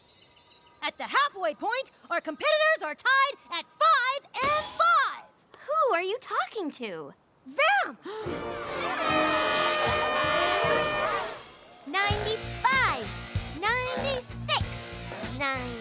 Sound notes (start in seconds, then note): 8.0 gasps; 8.4 cheers and applause